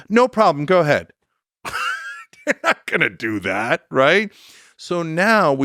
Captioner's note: laughs